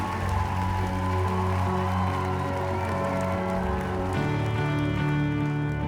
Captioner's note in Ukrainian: оплески